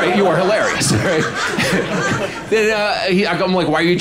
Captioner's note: audience laughing